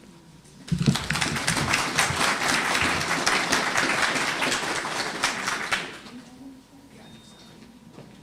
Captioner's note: applause